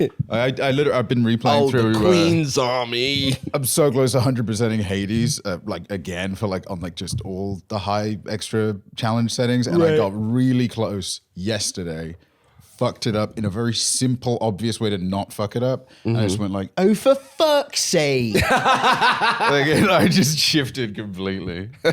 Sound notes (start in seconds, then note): 16.9 extra Britishly; 18.3 laughing